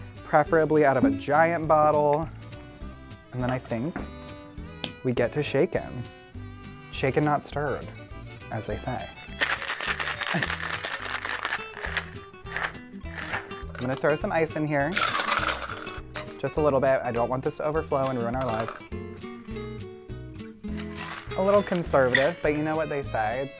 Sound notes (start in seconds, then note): 9.3 mixture rattling; 11.5 playful guitar; 14.9 ice rattling; 19.0 fluids splashing